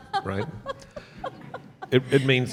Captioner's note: laughs